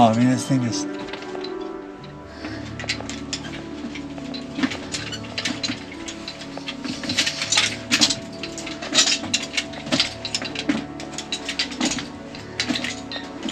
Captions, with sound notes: Oh, I mean, this thing is- (equipment rattling) (footsteps crunching)